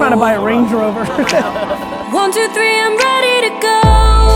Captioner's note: group laughter